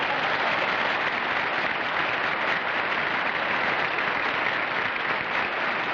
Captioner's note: applause